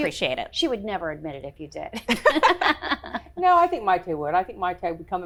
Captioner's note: laughs